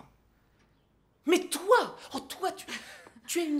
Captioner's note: chuckles